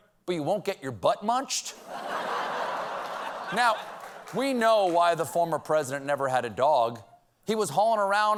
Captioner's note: laughter